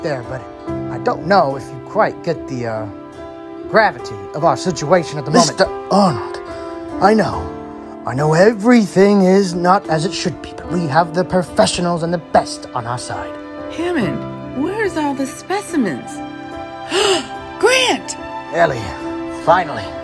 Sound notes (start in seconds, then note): 16.8 Ellie gasping